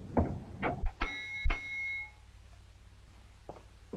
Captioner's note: bell rings